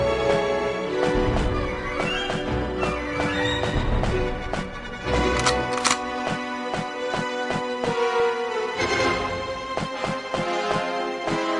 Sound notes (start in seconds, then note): 5.2 gun cocking